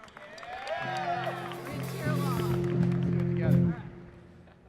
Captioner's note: applause